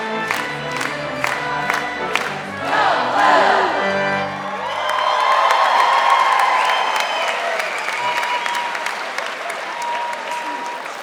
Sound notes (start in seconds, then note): 4.1 audience applauding